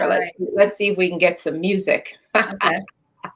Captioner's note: laughs